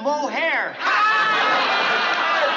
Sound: laughing

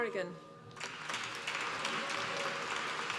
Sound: applause

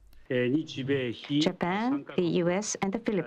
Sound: through translator

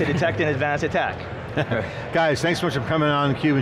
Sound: laughing

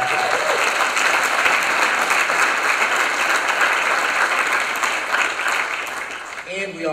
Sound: applause

